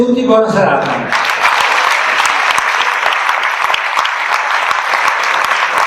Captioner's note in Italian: Applauso